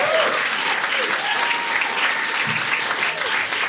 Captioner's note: audience cheering